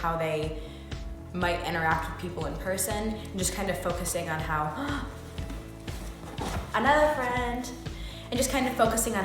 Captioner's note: gasp